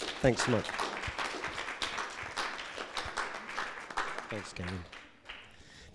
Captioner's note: audience clapping